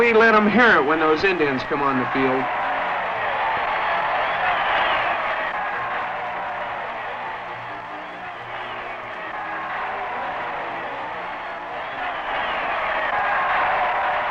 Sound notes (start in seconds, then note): 0.0 cheering and Applause; 3.4 cheering and Applause